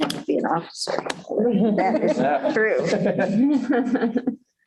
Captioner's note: laughter